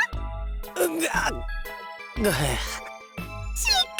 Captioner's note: pained groans